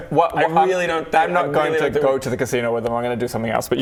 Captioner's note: none